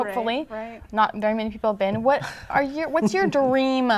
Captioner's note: laughter